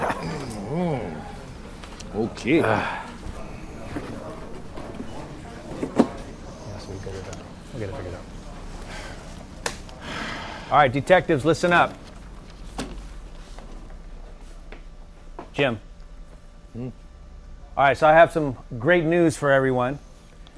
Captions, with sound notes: Mm, okay. (people chattering) - Yes, we'll get it out, we'll get it figured out. All right, detectives, listen up. Jim. - Hm? - All right, so I have some great news for everyone.